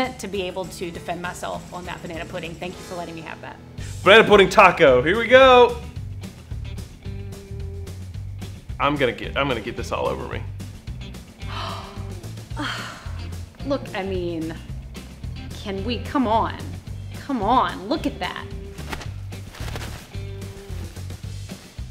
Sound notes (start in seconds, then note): 6.4 lively upbeat music; 11.4 gasps; 18.6 napkin rustles